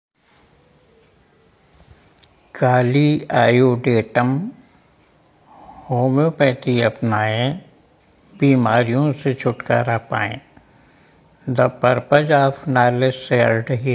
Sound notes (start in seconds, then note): 3.3 हिंदी में